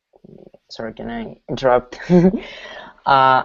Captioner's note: chuckles